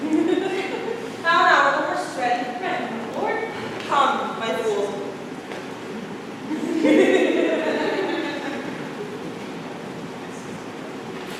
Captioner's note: scattered laughter